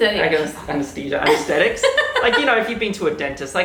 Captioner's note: laughing